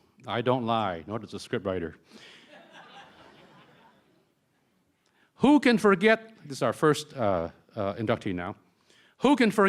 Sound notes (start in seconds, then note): 2.3 laughter